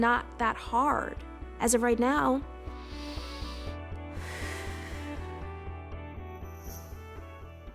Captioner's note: breathes deep, shakes head